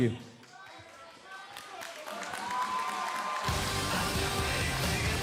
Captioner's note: crowd cheering